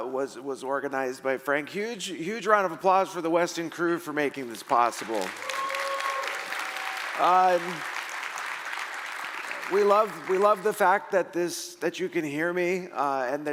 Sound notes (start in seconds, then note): 5.1 audience cheering